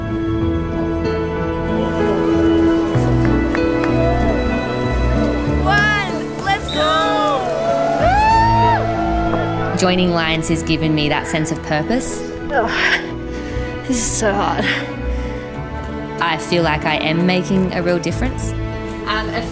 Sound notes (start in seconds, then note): 4.5 crowd clapping; 7.8 crowd cheering